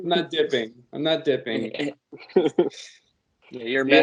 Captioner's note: laughter